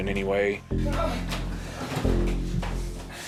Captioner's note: grunting